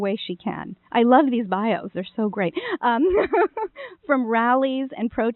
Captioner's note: laughing